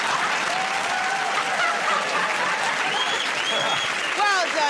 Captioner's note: laughing; cheers and applause